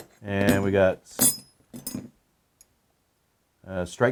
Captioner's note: metal clanking